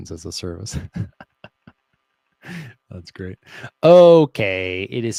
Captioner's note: laughs